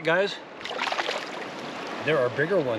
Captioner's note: fish splashing